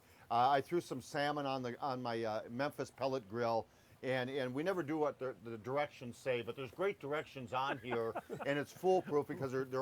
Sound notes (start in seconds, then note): 7.6 laughing